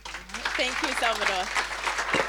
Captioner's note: audience applauding